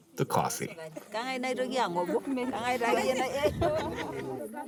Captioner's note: speaking in native language